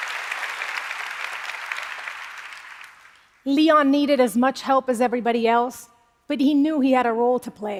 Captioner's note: applause